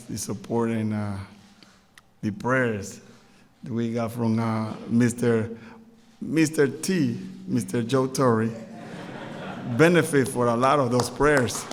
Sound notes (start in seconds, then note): 8.5 laughter